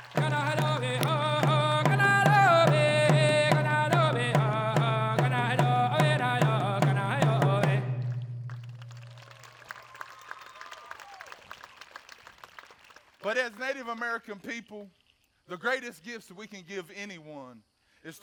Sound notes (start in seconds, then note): 0.2 lead dancer chanting; 8.4 audience applauding and cheering